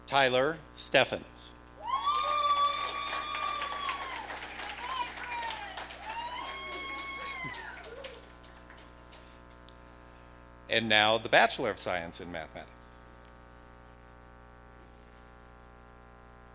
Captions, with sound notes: Tyler Steffens. (audience cheering) And now the Bachelor of Science in Mathematics.